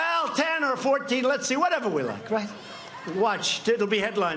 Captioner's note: laughter